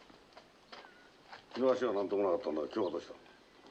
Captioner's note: speaking japanese